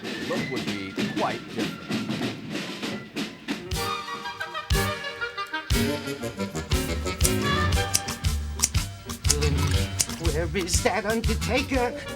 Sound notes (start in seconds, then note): 3.9 lively music; 3.9 scissor snipping